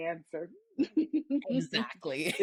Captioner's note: laughing